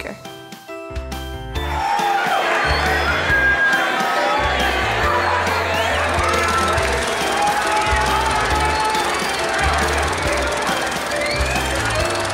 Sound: crowd noises

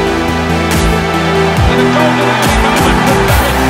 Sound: crowd cheers

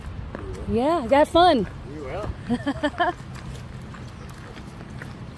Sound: laughing

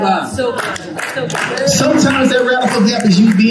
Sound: congregation clapping

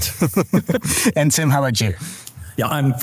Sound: group laughing

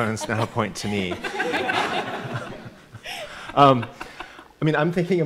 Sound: audience laughing

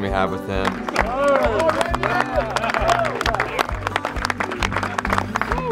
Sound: team clapping and cheering

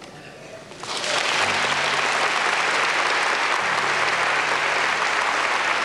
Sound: congregation clapping

